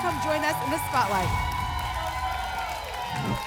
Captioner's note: applause and cheering; whoosh